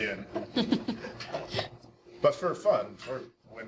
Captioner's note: scattered chuckling